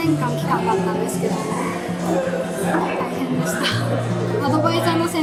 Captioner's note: laughs